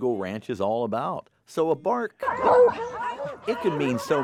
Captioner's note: beagle barking